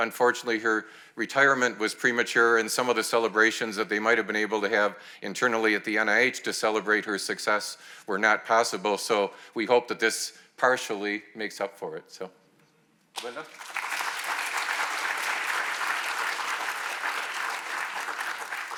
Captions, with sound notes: Unfortunately, her retirement was premature and some of the celebrations that they might have been able to have internally at the NIH to celebrate her success were not possible. So we hope that this partially makes up for it. So Linda. (attendees clapping)